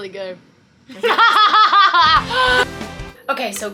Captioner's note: laughing heartily